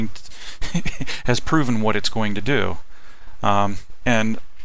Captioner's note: laughing